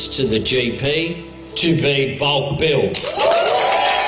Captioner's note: cheering and applause